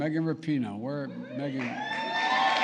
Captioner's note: applause